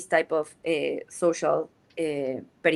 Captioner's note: speaks in Spanish